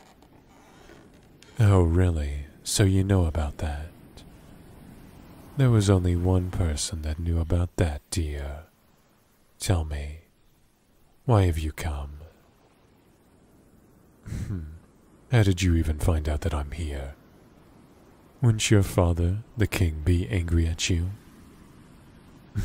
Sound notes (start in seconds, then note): 14.2 satisfied Sigh; 14.2 chuckles